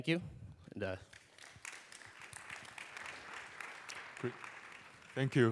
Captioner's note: applause